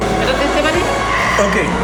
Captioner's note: speaking foreign language